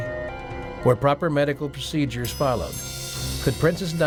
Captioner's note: ambulance siren sounding